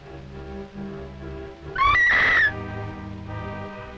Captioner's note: screaming